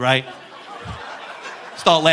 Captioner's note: audience laughing